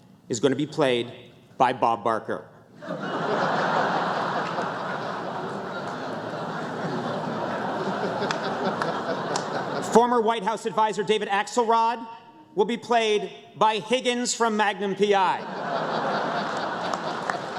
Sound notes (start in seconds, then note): 7.4 laughter